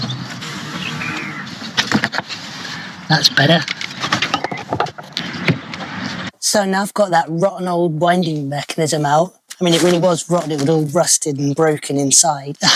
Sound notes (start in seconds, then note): 3.0 sound of tools being used; 3.6 sound of birds singing in the background